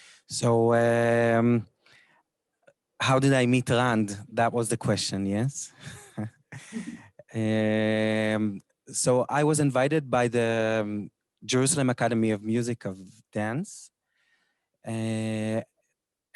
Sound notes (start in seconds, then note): 6.5 laughs